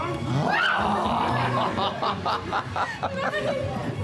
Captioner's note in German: lacht